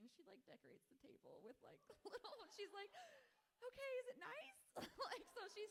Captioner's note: laughs